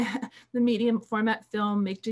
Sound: laughing

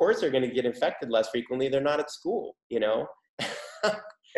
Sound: laughs

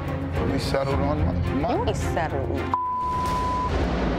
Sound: beep

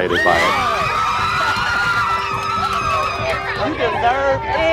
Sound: shrieking

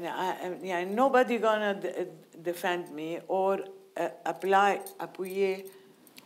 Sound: speaking in foreign language

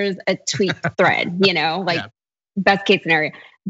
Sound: laugh

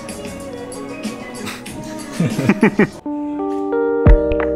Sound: both laughing; relaxing music

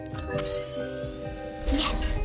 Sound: whirring

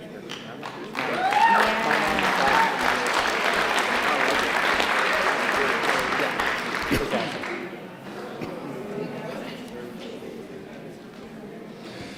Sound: applause

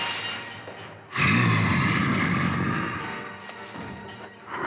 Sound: Donald growls

